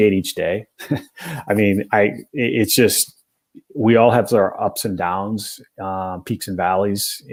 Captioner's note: laughter